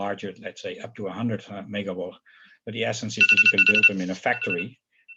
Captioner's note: phone rings